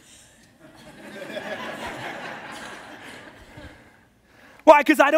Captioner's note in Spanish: la congregación se ríe